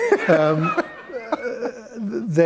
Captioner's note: laughter